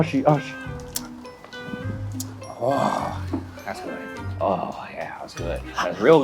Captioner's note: sips